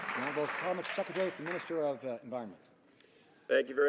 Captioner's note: some Applause